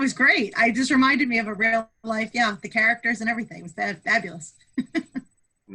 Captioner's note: chuckles